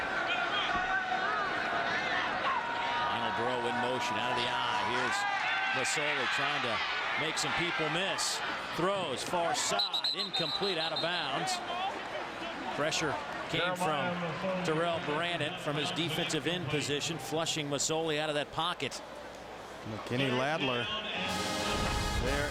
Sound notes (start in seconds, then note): 5.0 crowd noise